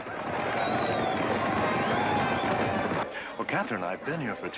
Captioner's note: horse hooves pounding and band playing